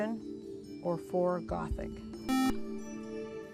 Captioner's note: buzzer